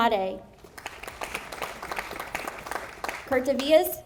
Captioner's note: audience applauding